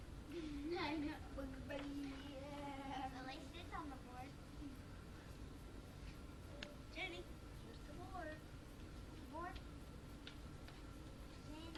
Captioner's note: children speaking